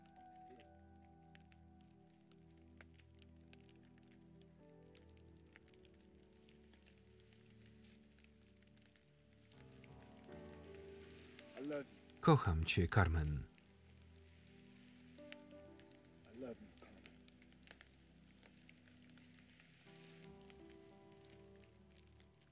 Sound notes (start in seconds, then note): 0.9 calm piano music; 0.9 rain falling; 18.0 calm piano music; 18.0 rain falling